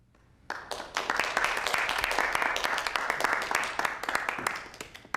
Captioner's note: audience clapping